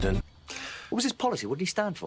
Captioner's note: breath in